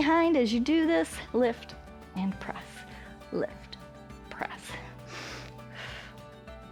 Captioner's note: inhales and exhales